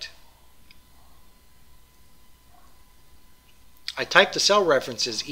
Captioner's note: pause